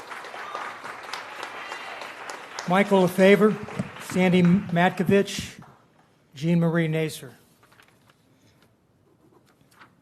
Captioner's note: applause